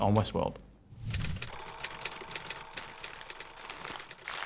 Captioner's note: film reel clicking